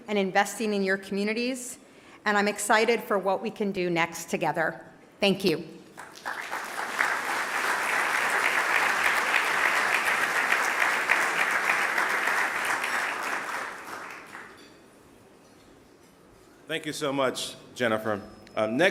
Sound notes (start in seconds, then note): 6.3 applause